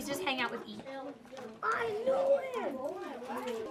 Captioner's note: classroom sounds